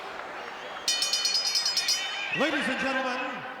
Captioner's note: bell rings